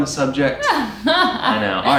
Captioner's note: laughs